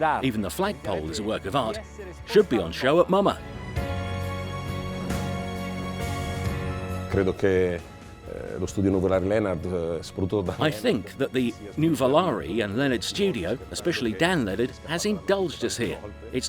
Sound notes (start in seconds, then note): 0.0 speaking Italian; 7.6 speaking Italian